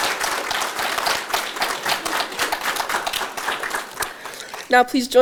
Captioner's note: audience Applause